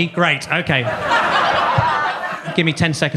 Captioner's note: audience laughs